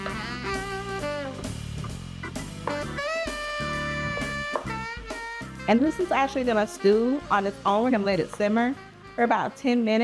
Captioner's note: sizzle